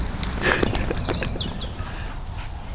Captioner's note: chuckles